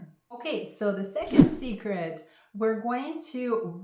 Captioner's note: air whooshing